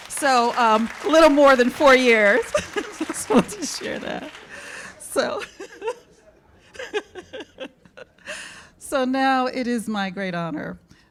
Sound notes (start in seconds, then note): 0.1 laughs